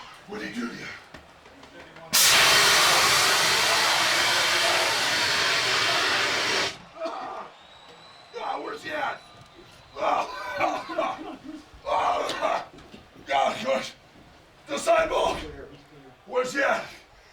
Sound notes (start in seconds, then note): 2.1 smoke rushing; 10.1 coughs